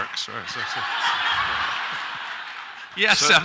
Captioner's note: audience laughs